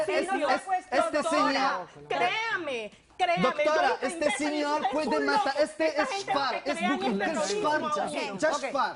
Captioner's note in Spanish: Hablan al unísono